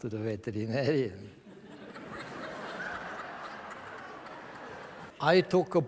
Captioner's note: laughter from the audience